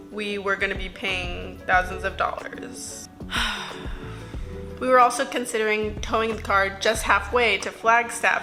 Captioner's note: sighs